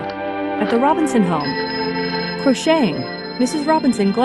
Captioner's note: telephone ringing